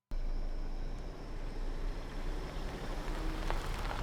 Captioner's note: car engine roaring